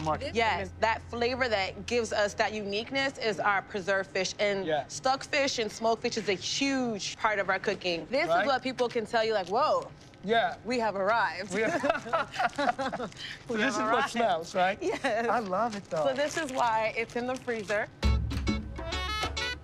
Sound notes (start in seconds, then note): 11.5 laughter